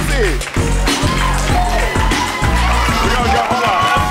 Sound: audience cheers

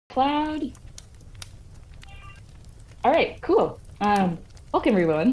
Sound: background sound of fireplace - wood crackling

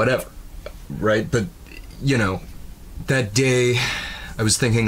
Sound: sighs

